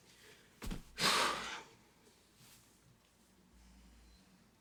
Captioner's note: Ally sighs